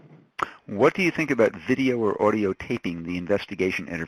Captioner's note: voiceover